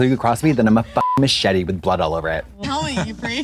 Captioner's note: beep